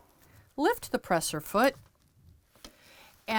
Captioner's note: none